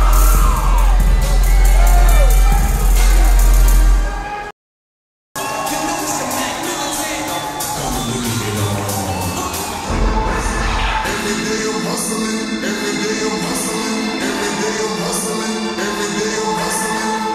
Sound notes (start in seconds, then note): 0.0 hip hop beat playing; 5.3 audience cheers; 10.6 dramatic hip hop music